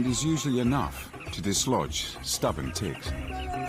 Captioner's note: people lively singing; upbeat music; birds chirping